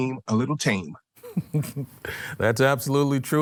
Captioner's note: chuckles